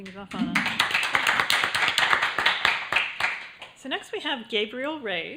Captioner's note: applause